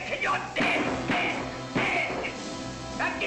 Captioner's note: banging